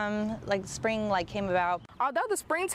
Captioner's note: nat sound:birds